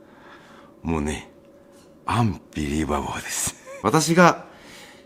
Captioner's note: laughs